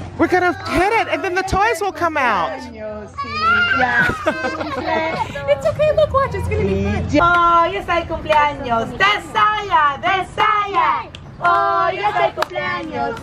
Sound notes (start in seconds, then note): 3.2 crying; 7.3 singing in foreign language